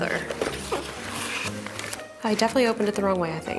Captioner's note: packaging rustles